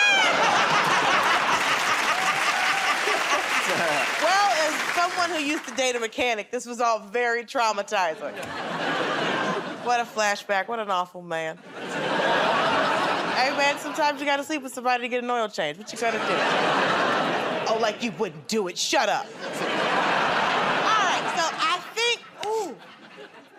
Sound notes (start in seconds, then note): 0.0 laughter; 3.1 applause; 8.2 laughter; 15.8 laughter; 19.2 laughter